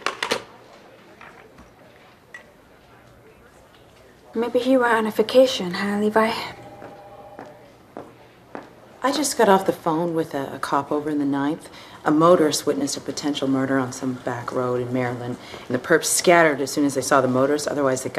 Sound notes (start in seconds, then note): 7.3 approaching footsteps